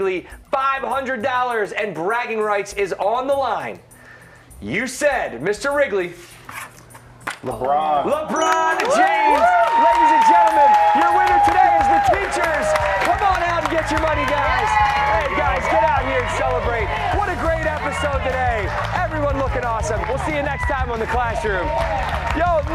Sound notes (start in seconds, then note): 9.0 cheers and applause